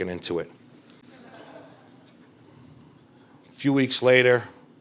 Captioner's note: crowd laughs